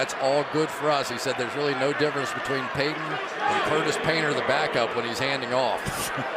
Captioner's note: laughs